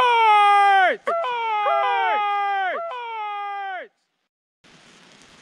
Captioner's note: yells; echoes